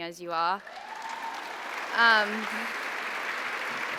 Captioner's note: applause